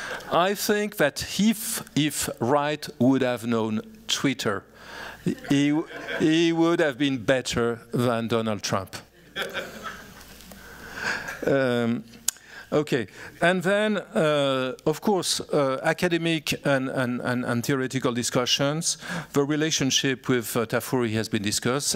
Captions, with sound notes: I think that if Wright would have known Twitter, he would have been better than Donald Trump. [laughter] And then, of course, academic and theoretical discussions. The relationship with Tafuri has been discussed.